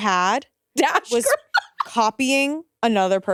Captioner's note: laughs